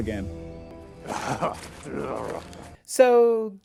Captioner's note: frustrated zombie noises